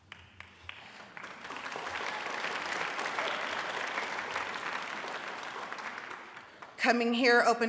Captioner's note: audience applauds